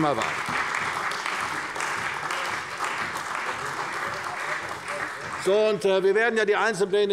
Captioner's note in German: Beifall bei der CDU und dem BÜNDNIS 90/DIE GRÜNEN